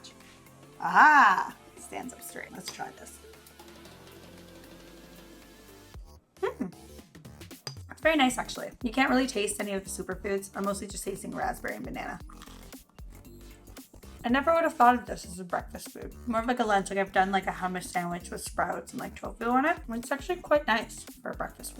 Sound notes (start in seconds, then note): 3.5 upbeat music; 12.3 toast crunches